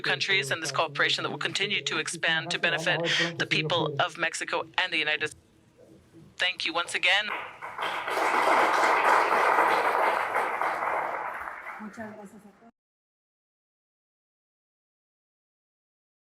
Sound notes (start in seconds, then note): 15.1 applause